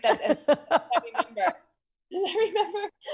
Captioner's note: laughs